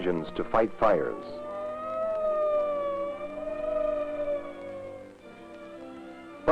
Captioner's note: siren wailing